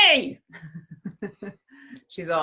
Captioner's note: laughs